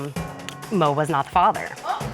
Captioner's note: clicks tongue